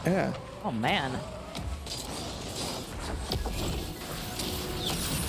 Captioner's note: game chiming, clattering